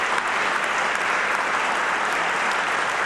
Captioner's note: applause